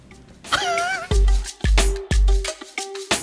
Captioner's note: laughing; upbeat music